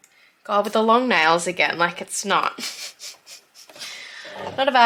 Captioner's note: another day, another awkward laugh